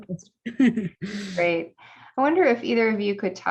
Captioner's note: laughter